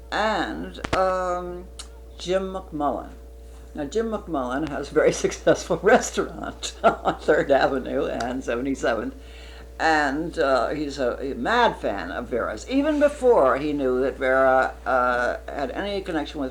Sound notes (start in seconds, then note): 6.3 laughs